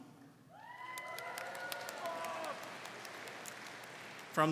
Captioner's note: crowd cheering